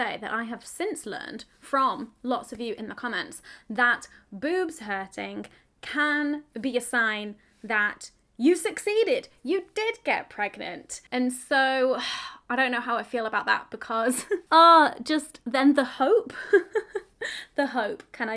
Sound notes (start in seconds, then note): 11.6 sighs; 14.3 chuckles; 16.4 laughs